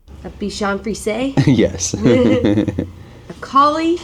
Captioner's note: laughs